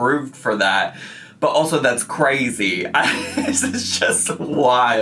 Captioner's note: laughs